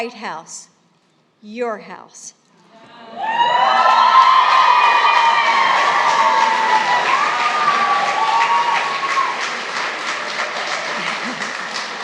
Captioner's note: applause